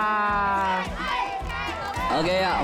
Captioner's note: cheering